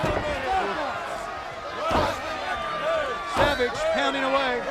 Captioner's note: crowd chatter